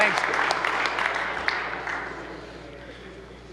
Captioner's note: applause